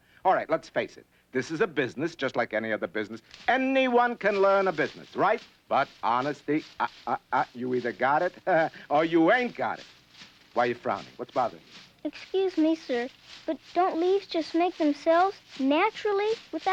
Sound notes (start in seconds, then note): 6.7 chuckles